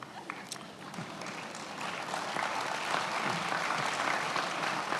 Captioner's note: attendees applauding